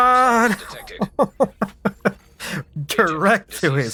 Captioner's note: laughs